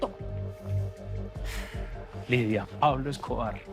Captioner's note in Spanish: Él exhala